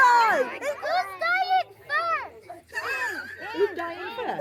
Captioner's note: laughing; laughing